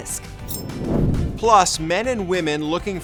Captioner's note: air whooshes